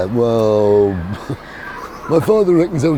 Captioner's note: laughing